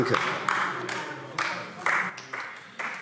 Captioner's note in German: Beifall AfD